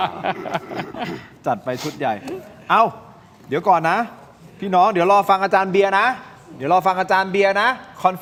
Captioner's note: laughs